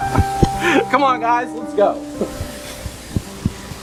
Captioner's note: laughs